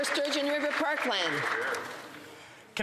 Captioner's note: some Applause